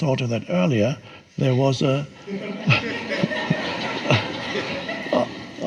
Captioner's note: audience laughs